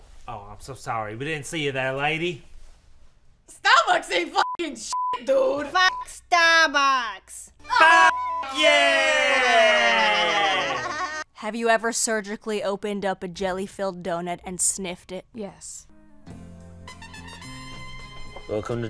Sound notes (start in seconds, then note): 4.8 beep; 7.9 beep; 10.5 baby giggles